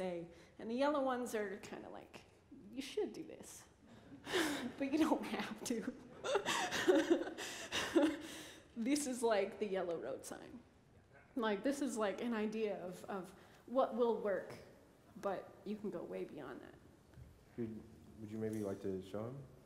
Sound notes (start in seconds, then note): 5.9 laughter